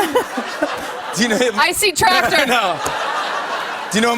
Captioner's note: laughter